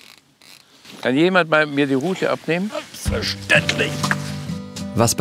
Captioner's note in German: angestrengt